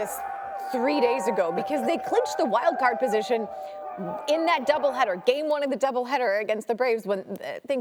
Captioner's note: cheers